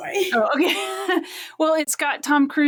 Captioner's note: laughs